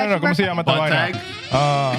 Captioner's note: speaking Foreign Language